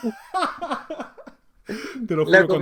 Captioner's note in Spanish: risas